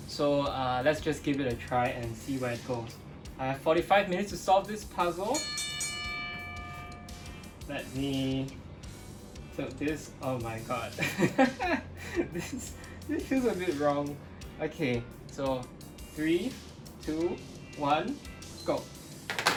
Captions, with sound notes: So let's just give it a try and see where it goes. I have 45 minutes to solve this puzzle. (bell rings) Let me, so this, oh my God (laughs). This feels a bit wrong. Okay, so three, two, one, go.